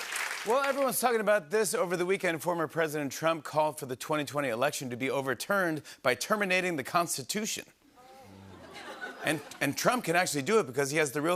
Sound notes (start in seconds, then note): 7.8 audience oohs